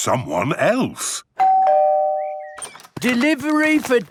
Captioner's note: door bell ringing